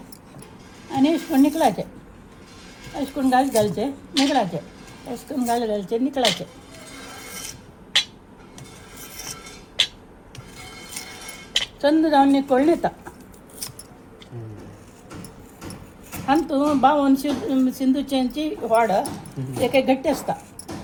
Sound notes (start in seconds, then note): 14.6 slicing